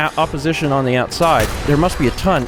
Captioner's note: blam!